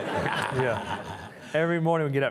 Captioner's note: all chuckling